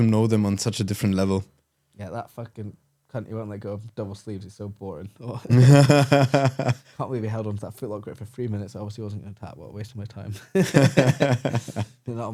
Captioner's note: laughing